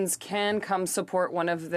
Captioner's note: speaking French